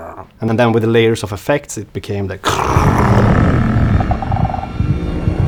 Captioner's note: sound effect